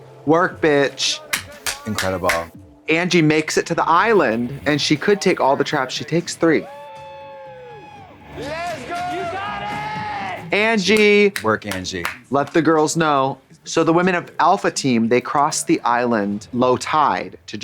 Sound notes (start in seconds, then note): 1.2 claps; 6.6 teammates cheering; 11.3 applauds